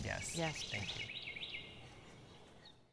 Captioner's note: birds chirping